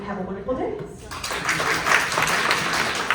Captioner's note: clapping